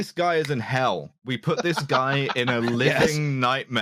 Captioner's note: laughter